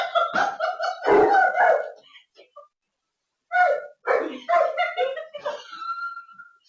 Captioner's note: laughs; dog barking; laughing